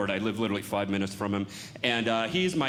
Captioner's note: none